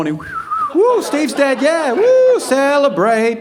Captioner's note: imitating birds singing